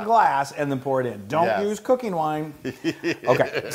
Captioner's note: laugh